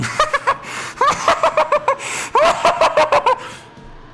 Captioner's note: manic laughter